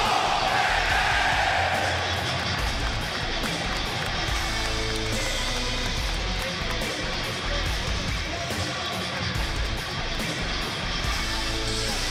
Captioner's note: crowd cheering; crowd chatter